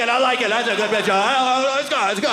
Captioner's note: audience laughing